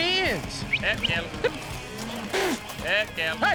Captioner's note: whistle